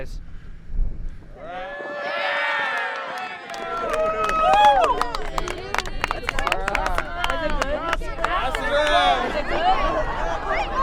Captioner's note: applause